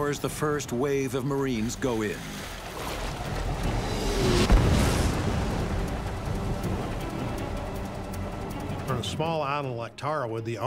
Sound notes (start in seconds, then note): 3.8 missile whirring; 4.3 missile exploding